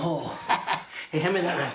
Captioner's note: Joe chuckling